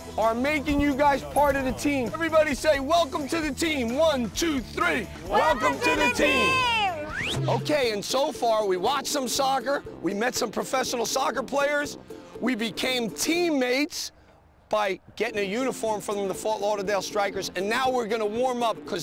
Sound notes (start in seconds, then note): 6.9 playful whistle